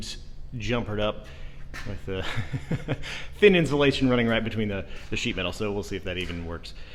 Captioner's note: laughs nervously